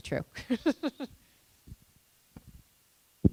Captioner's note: laughing